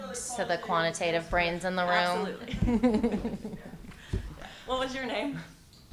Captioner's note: laughs